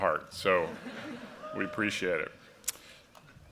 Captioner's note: laughter